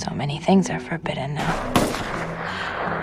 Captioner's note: voiceover; distant gunshots